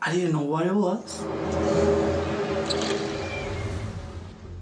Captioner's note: groaning sound